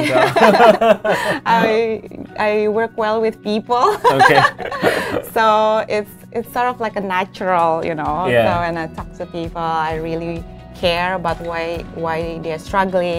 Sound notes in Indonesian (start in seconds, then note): 3.8 keduanya tertawa